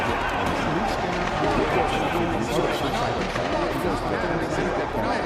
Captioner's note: shouting, bang